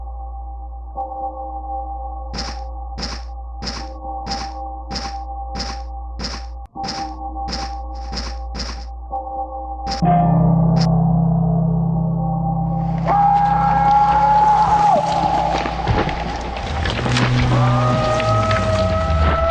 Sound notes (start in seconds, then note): 2.4 footsteps thudding; 10.8 eerie ambient music